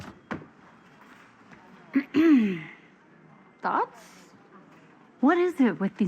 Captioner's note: clears throat